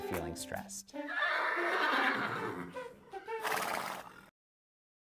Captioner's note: unicorn whinnies